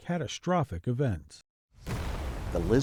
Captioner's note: water crashes and fire roars